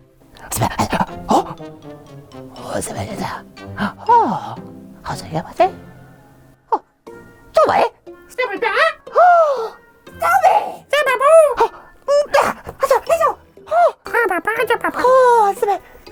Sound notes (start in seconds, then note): 9.0 puppet gasps